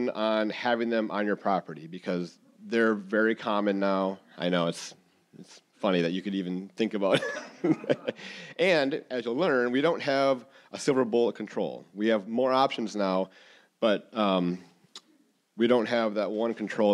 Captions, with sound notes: on having them on your property, because they're very common now. I know, it's funny that you could even think about. [all laughing] And as you'll learn, we don't have a silver bullet control. We have more options now, but we don't have that one control